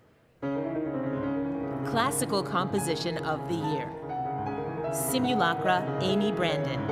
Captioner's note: speaking French